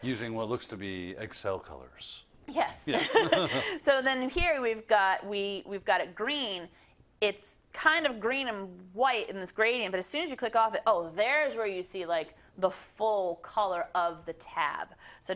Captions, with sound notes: -Using what looks to be Excel colors. -Yes [LAUGH]. So then here we've got it green. It's kind of green and white in this gradient, but as soon as you click off it, there's where you see the full color of the tab.